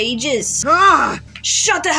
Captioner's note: Caine Shouts